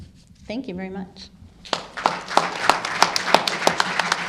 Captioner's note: applause